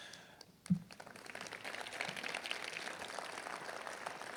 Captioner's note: applause